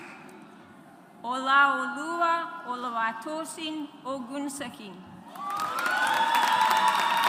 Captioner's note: audience applauds